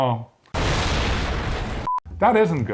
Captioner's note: loud explosion